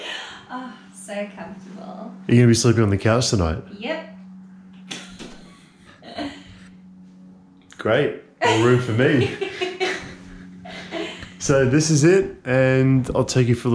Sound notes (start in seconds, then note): 4.9 laughing; 8.4 laughing